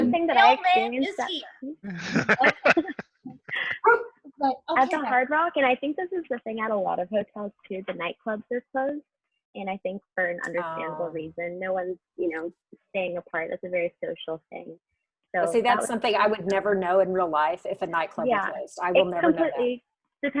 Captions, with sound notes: - One thing that I experienced at- - Mail man is here. (laughing) - At the Hard Rock, and I think this is the thing at a lot of hotels, too, the nightclubs is closed, and I think for an understandable reason. No one's staying apart. That's a very social thing. - See, that's something I would never know in real life, if a nightclub was closed. I will never know that. - Yeah, it completely